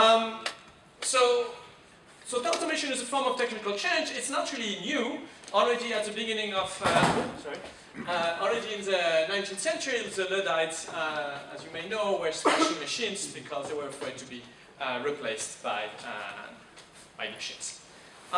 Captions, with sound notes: So automation as a form of technical change is not really new, already at the beginning of-- (chair banging) Oh, sorry. Already in the 19th century, the Luddites, as you may know were-- (man coughing) Because they were afraid to be replaced by machines.